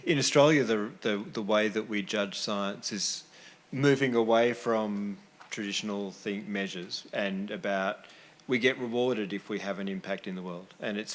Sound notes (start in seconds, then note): none